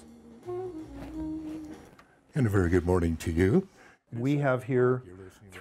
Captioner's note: soft trombone music; male radio voice